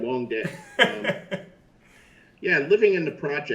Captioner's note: Chris laughs loudly